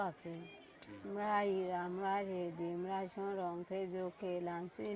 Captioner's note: speaking burmese